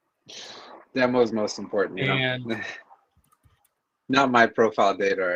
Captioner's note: laughs